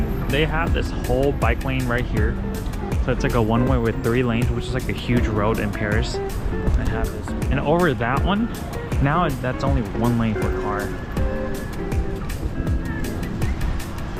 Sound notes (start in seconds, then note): 2.1 car